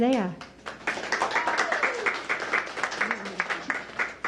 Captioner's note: applause